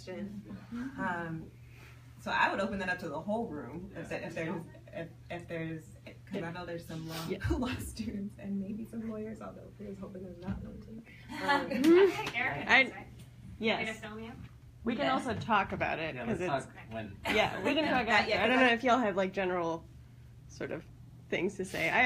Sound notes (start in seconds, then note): 9.9 whispers